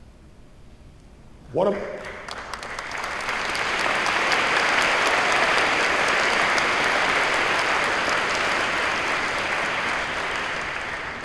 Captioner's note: applause